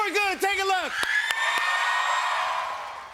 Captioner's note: cheers and applause